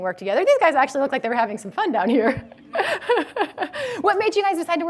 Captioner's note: laughs